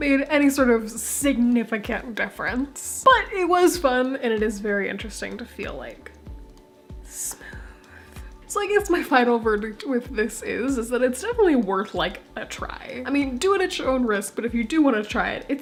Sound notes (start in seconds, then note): 7.0 whispered